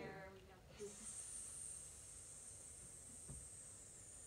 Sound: hiss Sounds

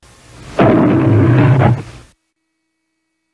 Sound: Leo the Lion roars

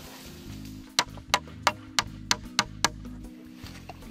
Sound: hammer pounding

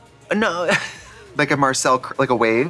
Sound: wheezing

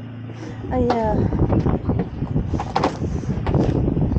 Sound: wind

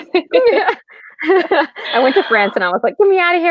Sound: laughing

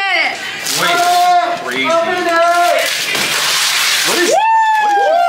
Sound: paper ripping; people cheering

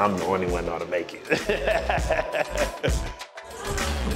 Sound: laughs

